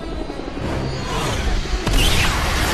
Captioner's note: dramatic music; airplane whooshing; missile whistling